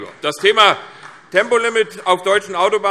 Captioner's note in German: Beifall CDU